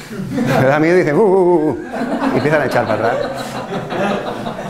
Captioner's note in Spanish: risas